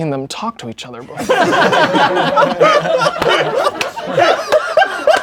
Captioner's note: crowd laughing